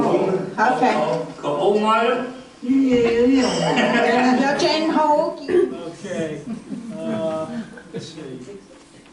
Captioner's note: speaking Hoisin-wa